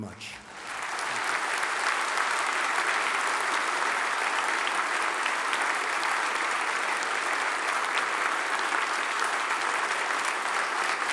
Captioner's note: applause